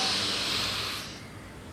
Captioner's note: he Inhales